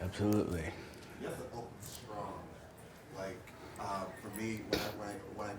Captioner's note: voiceover